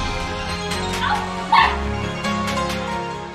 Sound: scream

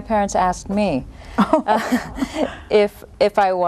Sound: chuckle

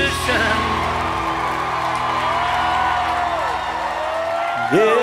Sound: applause

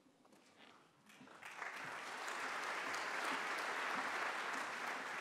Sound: applause

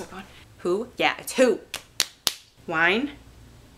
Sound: slapping noises

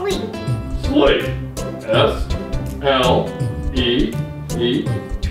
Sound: voiceover

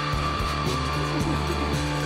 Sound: laugh; seductive

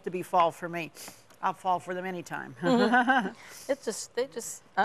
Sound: both laugh

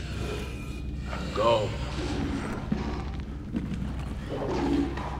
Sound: distant growling

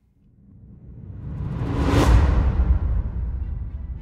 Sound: dramatic sound

